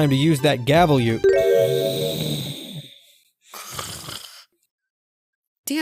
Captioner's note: snore